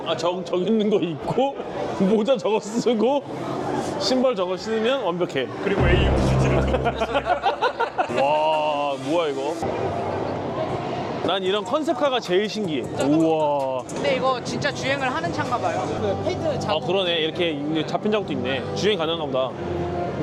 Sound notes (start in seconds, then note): 6.4 hahahahahahaha